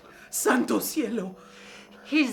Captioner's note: speaking in foreign language